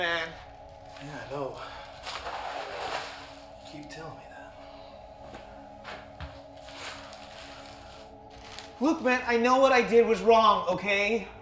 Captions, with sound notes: Yeah, I know. (sound of plastic sheeting) You keep telling me that. Look man, I know what I did was wrong, okay?